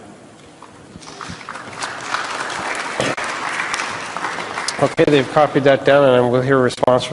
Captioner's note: applause